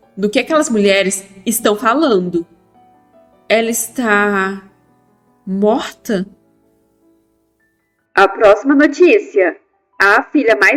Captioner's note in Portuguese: voz da mulher do jornal